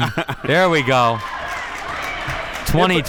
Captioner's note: spectators applauding